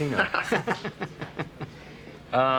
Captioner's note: Joe laughing